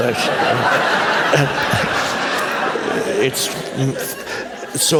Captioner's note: laughter